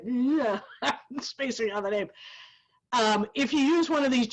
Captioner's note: laughs